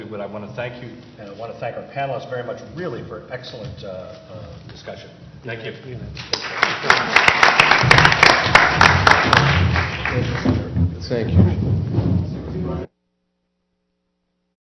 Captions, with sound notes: I want to thank you, and I want to thank our panelists very much really for an excellent discussion. Thank you. [APPLAUSE]